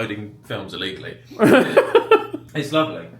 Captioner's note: laughs